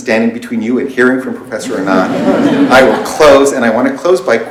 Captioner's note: laughter